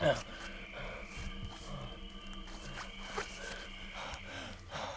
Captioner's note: person breathing